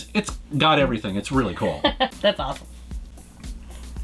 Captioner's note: laughs